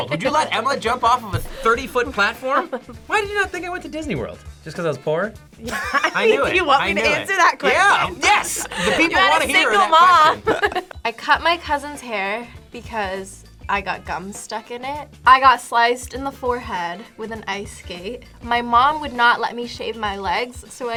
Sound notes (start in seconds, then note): 10.7 laughs